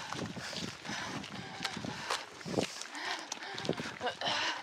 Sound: heavy breathing continues

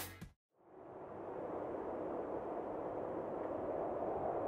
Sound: winh howling

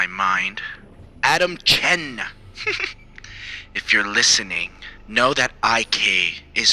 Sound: laughs

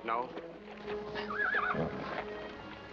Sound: whinnies

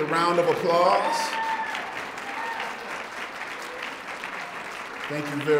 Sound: students applauding

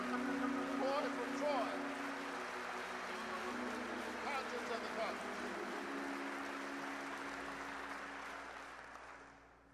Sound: applause

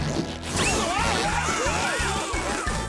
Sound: yelling

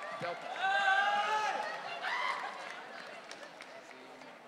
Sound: audience cheering

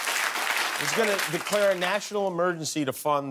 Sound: laughter and applause

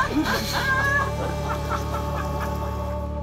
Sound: laughter

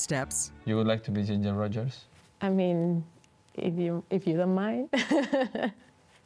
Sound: laughs

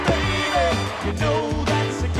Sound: whistle shrills

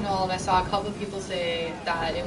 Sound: none

